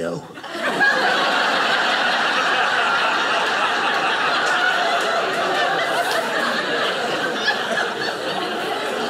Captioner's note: audience laughing